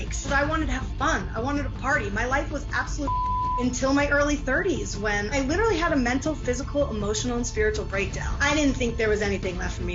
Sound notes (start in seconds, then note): 3.0 beep